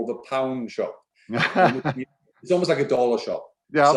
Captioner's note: laughing